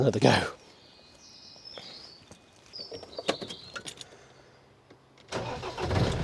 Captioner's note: birds chirping